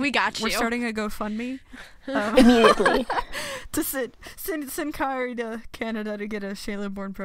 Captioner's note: laughs